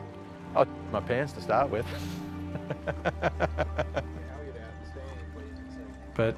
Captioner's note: laughs